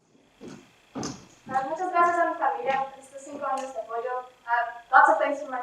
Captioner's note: speaking in foreign language